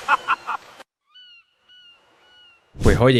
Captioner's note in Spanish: risas